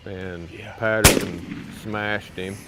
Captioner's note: gun firing